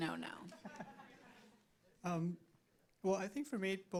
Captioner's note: audience laughs